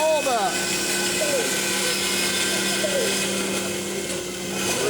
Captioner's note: machine buzzes